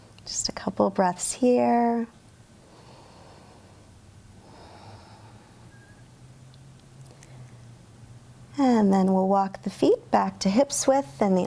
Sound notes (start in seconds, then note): 2.5 inhales; 4.4 exhales